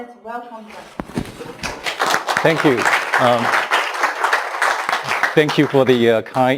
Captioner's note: clapping